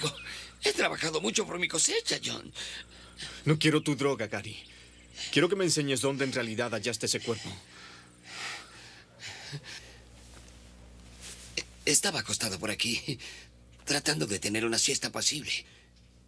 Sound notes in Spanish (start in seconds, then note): 7.8 Respirando pesadamente